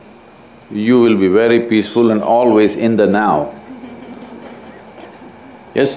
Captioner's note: laughter; 笑聲